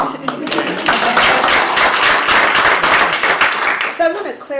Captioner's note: applause